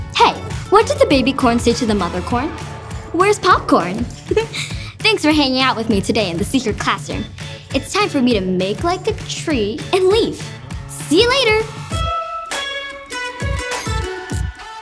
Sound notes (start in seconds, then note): 4.2 chuckles; 12.1 bright music